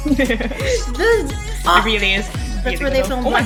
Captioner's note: heheheh; various impressed noises